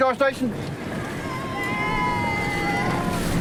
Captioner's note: cheers